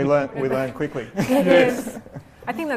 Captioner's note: laughing